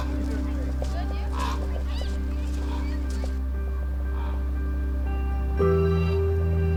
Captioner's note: children clamoring continues; pensive music continues